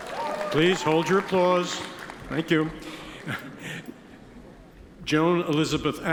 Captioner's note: attendees cheer and applaud; chuckles